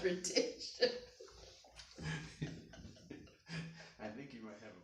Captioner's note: laughing